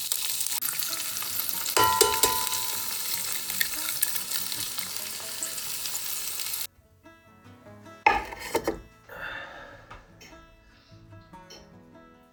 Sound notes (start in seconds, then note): 1.8 tapping; 4.2 sighs